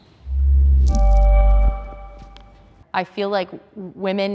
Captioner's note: chiming